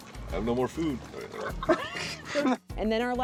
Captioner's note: light laughter